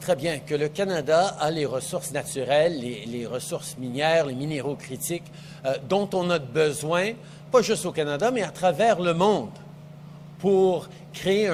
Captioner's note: speaks French